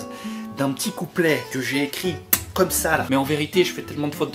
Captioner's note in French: smack